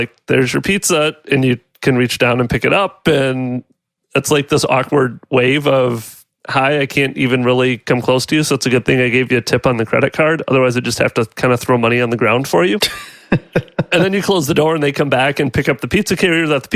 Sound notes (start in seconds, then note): 12.8 laughs